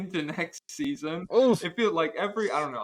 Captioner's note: groans